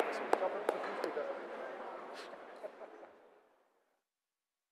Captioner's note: general applause; laughter